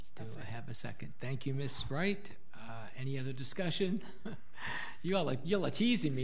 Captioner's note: laughing